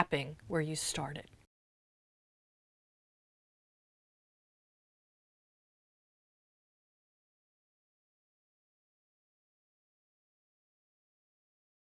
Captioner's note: no Sound Present